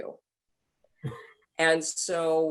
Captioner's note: laughing